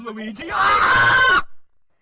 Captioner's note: aaaaaaaaaaaaa